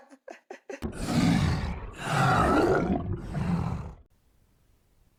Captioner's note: giggling; monstrous Noises